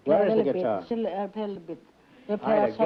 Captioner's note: speaking italian